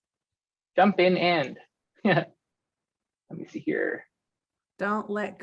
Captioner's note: laughs